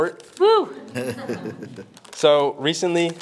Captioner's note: members laughing